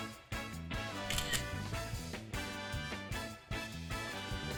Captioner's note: camera clicks